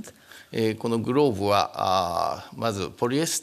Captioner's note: speaking japanese